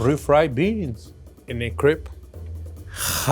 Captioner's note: speaking in foreign language